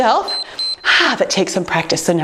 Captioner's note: timer beeps